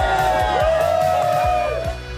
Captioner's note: cheering